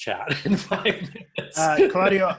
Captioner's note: laughs